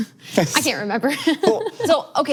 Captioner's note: laughs